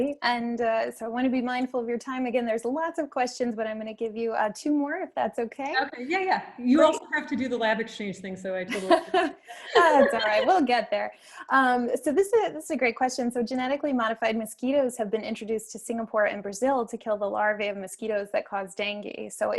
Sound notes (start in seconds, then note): 9.5 laughs